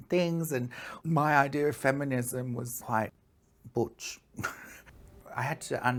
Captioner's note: laughs